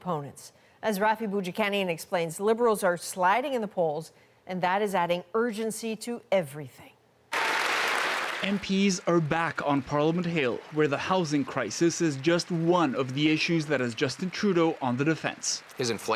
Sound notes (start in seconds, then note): 10.1 applause